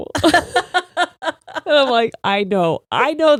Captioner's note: laughing